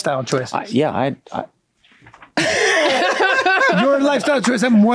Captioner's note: all laughing